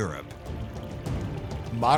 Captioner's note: stream babbling